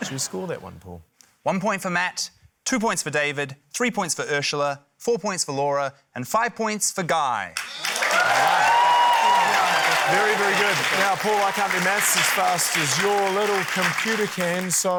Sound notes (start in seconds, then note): 8.7 cheering, applause